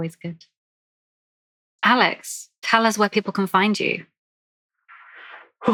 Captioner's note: laughs